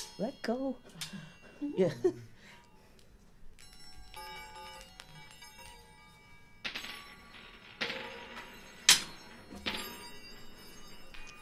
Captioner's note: soft rolling bell sound